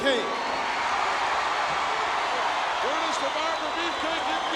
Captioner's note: audience cheers